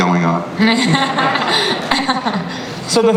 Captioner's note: laughter